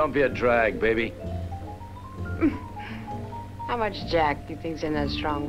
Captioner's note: laughs